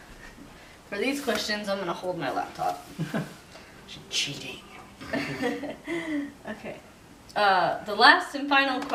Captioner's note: we laugh